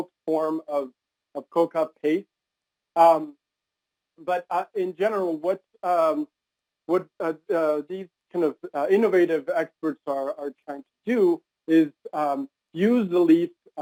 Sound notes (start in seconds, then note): 1.4 not speaking english